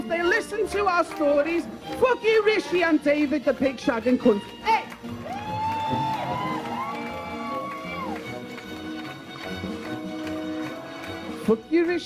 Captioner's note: cheers